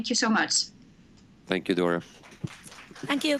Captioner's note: audience applause